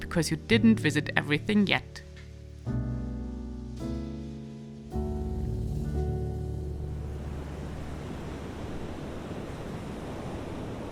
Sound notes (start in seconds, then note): 3.2 gentle music; 7.3 water sloshing